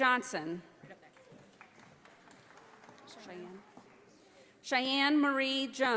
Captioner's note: audience applauding